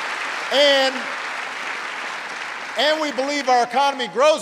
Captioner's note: applause